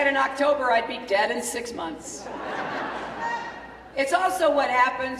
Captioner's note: laughter